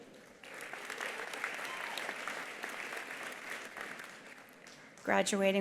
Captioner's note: attendees applauding